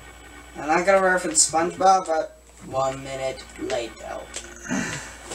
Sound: in a random accent

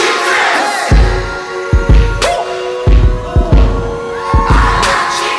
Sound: beatbox

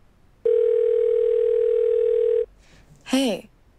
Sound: phone ringing

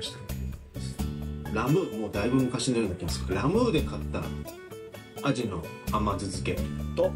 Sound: laughs

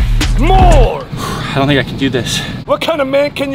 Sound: sighs

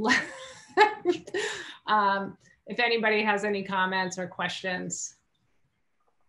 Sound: laugh

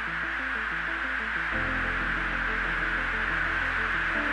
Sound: static hissing

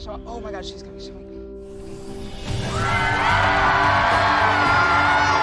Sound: cheering

